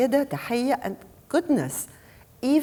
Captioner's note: speaking foreign language